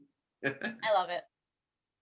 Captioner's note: laughs